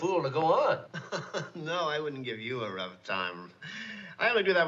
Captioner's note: chuckles